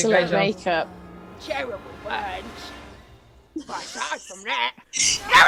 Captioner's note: Sketch audio plays